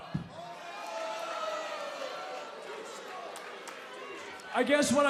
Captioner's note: crowd cheering